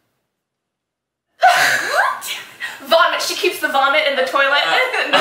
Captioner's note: the laughter of failure